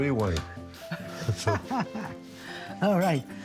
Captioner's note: Lidia laughs